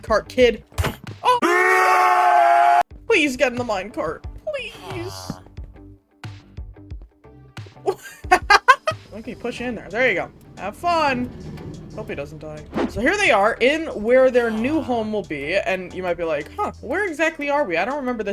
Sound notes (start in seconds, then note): 1.3 COD zombies noises intensify; 7.8 laughter